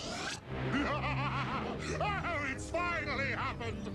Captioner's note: zurg laughing